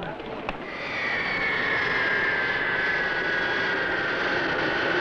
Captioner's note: plane engine roaring